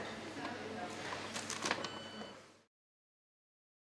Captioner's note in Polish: dźwięk kasy fiskalnej